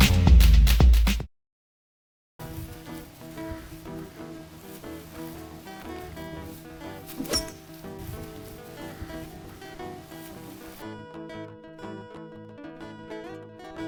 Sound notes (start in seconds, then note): 2.7 light music; 7.1 golf club clinking